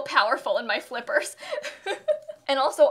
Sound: laughter

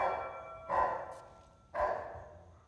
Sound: barking

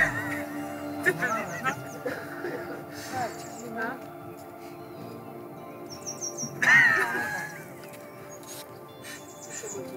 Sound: laughter

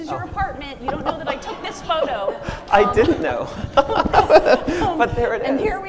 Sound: machine laughs

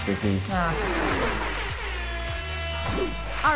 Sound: siren blaring

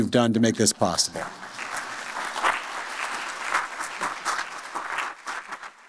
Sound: applause

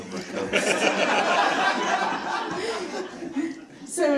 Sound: crowd laughs

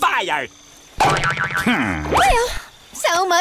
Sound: groaning

